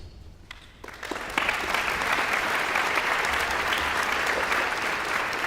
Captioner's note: audience applauds